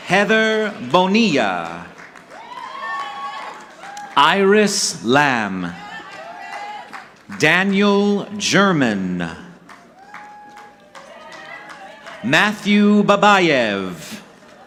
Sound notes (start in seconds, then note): 2.0 audience cheering; 5.9 audience clapping; 9.4 audience clapping